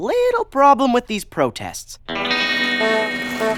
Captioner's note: rumble of a motor, vehicle honks